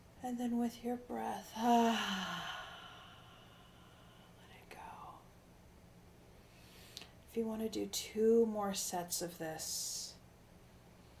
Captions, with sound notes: and then with your breath, (exhaling) let it go. If you wanna do two more sets of this,